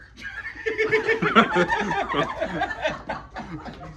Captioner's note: all laughing